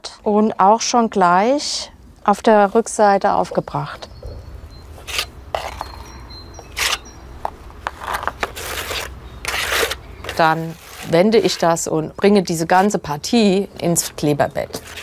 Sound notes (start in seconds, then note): 5.3 birds chirping